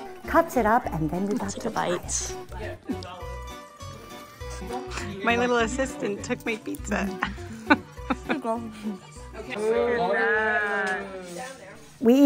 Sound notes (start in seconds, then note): 6.9 laughs; 9.5 participants exclaim